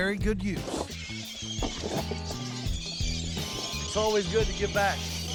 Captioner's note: birds screeching, feeding